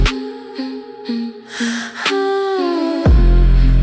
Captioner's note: female hum — haunting